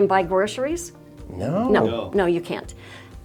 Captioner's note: in Unison